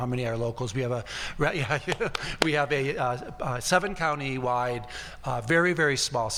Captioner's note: claps